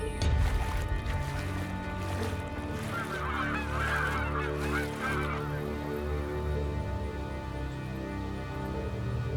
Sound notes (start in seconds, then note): 0.0 water splashing; 3.4 seagulls cawing; 5.8 eerie, suspenseful music